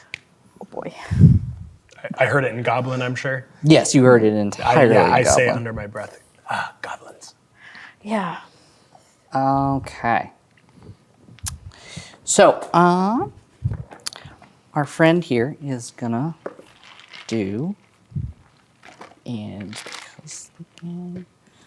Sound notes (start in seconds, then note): 16.3 ice cubes rattling; 18.5 quietly